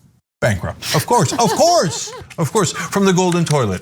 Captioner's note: laugh